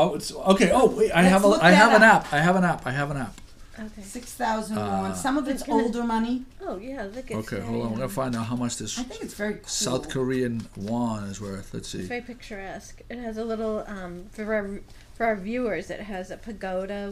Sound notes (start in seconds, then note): 4.0 voiceover; 12.1 voiceover